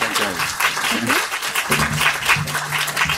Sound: applause

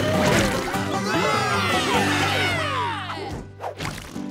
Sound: cheering

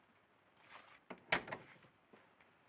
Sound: door closes

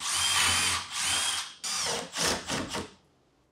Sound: drill whirring

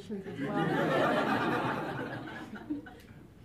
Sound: laughter

